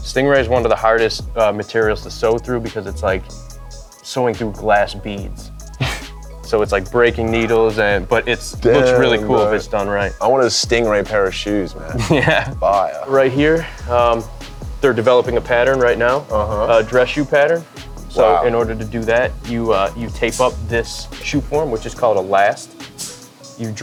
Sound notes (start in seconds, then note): 5.7 guy exhales; 11.8 laughs